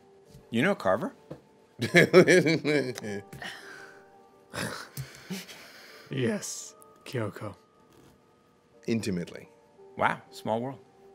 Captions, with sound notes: - You know Carver? (laughing) - Yes, Kyoko. - Intimately. - Wow, small world.